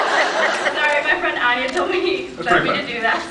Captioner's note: laughs